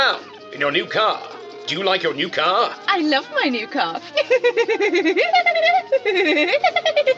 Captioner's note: giggles